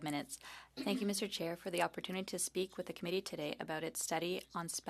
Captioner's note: speaking French